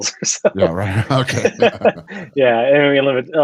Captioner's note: laughs